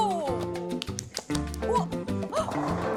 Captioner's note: ball rolling straight out